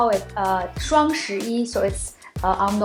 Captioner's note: speaks in foreign language